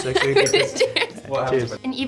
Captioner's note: both laughing